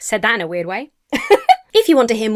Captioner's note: laughs